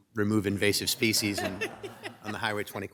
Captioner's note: group laughs